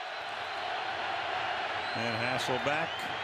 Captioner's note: cheers, applause